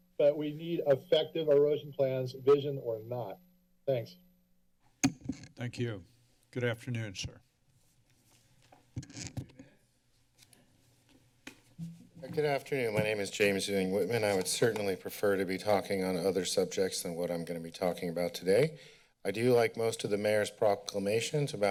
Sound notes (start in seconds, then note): 5.0 microphone sounds